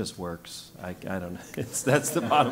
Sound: laugh

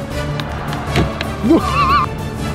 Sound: whack

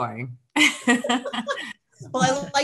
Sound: panel laughs

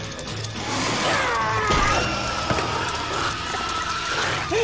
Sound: centipede squeals; Dirk screams

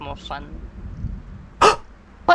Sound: gasp

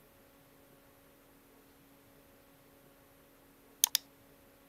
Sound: keyboard clicking

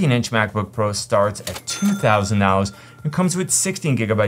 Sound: cash register chimes

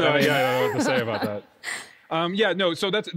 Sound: laughs

